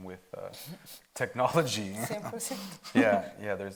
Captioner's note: speaking Spanish